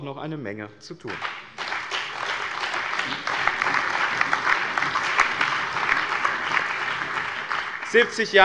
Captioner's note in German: Allgemeiner Beifall